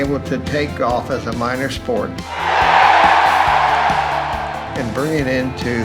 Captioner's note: crowd cheering